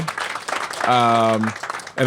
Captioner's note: applause